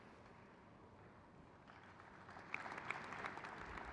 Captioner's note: crowd cheers